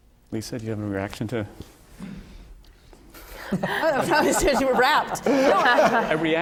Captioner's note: laughter